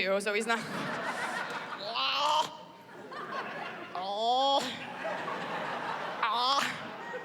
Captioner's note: groaning